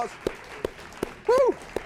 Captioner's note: and audience clap